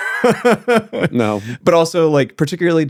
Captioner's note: laughing